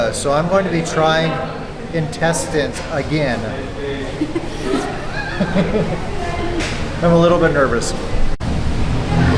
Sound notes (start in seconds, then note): 4.1 laughs